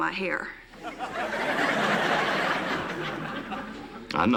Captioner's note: laughter